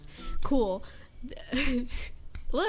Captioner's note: laughs